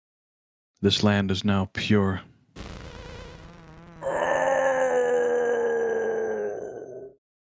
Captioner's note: groans